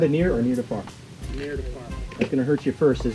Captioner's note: voiceover